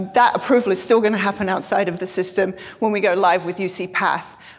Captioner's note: none